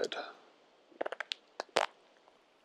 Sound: series of clicks followed by a short raspberry

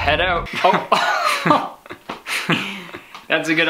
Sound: chuckles

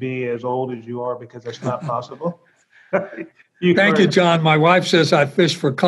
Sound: laughs

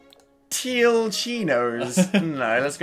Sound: laughs

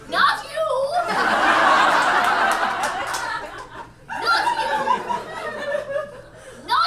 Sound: audience laughs

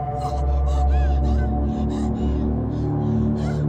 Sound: Brigit panting

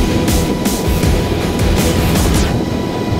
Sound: helicopter wings humming

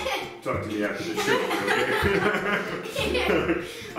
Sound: all laughing

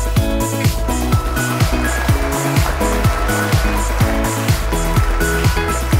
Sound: applause

